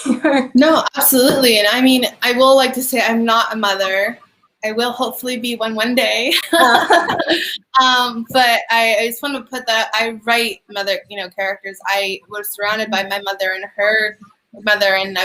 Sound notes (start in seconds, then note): 6.4 both chuckling